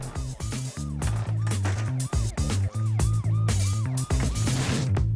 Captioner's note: sirens